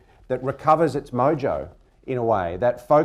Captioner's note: none